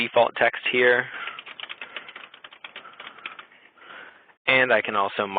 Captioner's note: typing